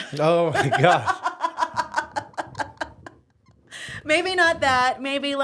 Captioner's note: laughing